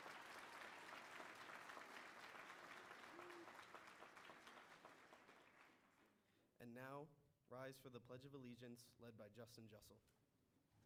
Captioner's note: cheering